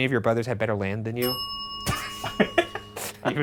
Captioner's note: bell dings; all laughing